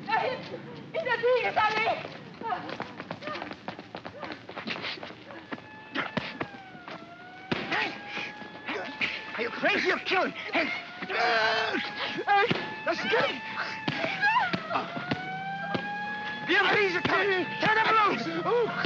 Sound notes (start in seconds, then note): 0.0 woman speaking frantically in German; 2.7 running footsteps; 5.9 siren wailing in distance; 5.9 sounds of punching; 9.6 Kowalski cries out; 13.3 siren wailing in distance; 13.5 sounds of punching; 15.7 siren wailing